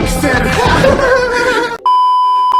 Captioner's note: irritant laughter